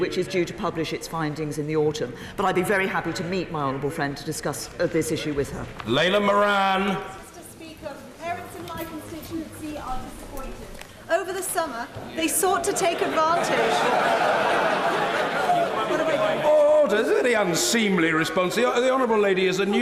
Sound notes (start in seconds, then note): 15.7 laughter